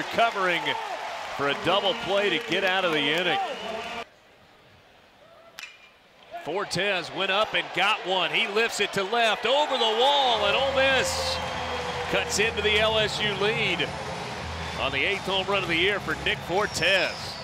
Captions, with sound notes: covering for a double play to get out of the inning. [Ball hitting bat] Fortes went up and got one. He lifts it to left over the wall and Ole Miss cuts into the LSU lead on the eighth homerun of the year for Nick Fortes.